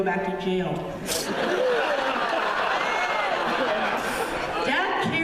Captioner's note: laughter